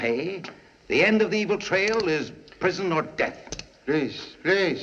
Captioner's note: handcuffs Ratcheting